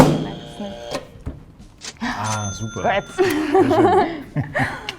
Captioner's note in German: buzzer; katsching